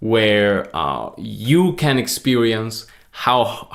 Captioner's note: none